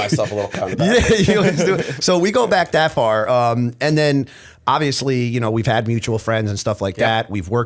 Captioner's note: laughter